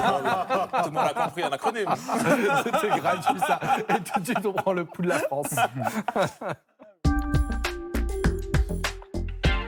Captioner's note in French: rires; rires